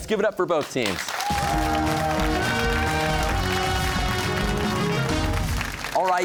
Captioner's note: cheers and applause